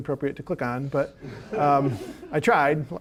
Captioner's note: audience laughing